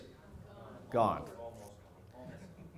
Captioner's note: crowd